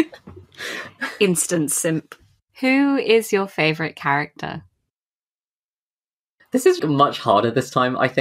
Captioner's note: laughs